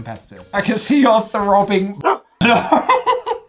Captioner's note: dog barks; laughs